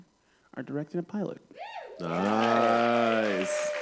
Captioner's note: cheering